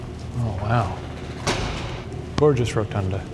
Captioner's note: door thuds